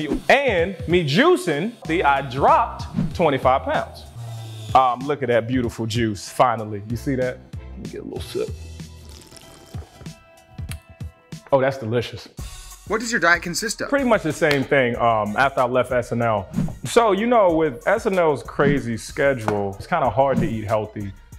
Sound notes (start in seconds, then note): 8.8 slurping noise